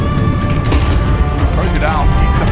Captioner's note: grenade booms